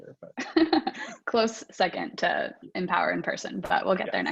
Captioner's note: laughs